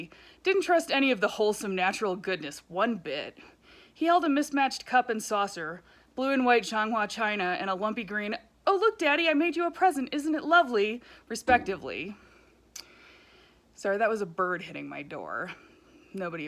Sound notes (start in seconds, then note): 11.4 thump